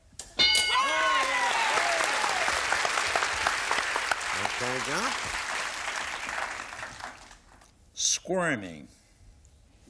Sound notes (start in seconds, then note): 0.4 bell; 0.8 applause